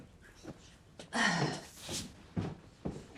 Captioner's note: Clive sighs